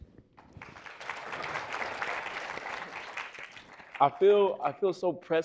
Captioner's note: audience applauding